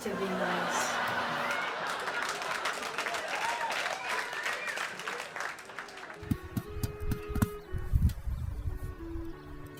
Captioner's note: audience applauding; classical music